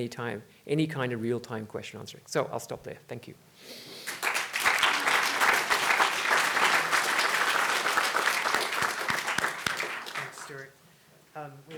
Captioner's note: audience applause